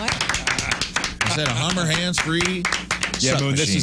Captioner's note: audience Applauding